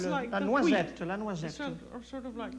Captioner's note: speaks French